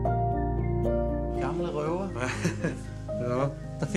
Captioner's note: laughter